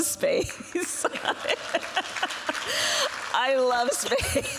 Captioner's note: laughs; applause